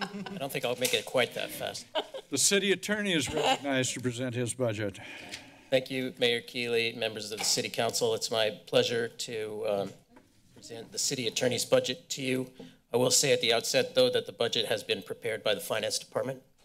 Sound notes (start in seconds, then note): 1.7 laughter